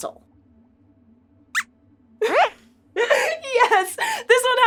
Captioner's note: squeaks squeaks